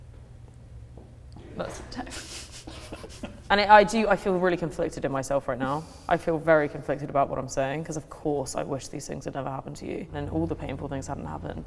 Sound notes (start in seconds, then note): 1.9 chuckling